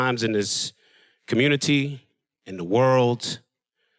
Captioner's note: none